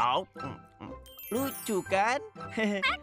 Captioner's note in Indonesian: tertawa; kwek tertawa